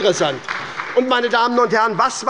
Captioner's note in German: Beifall bei der SPD